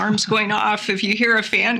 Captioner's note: laughs